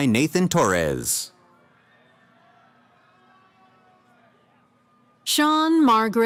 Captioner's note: cheering